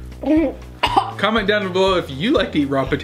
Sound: coughing

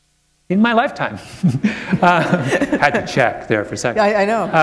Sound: laughter

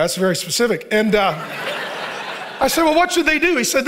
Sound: congregation laughing

